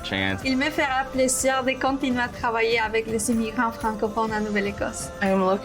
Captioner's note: woman speaking in foreign language